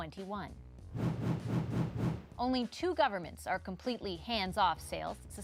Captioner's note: whoosh